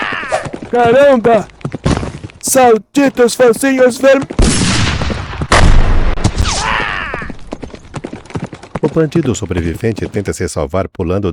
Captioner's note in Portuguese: grito